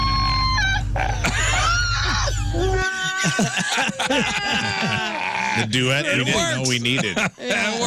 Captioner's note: screaming